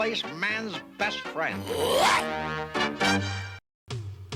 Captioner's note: brain barks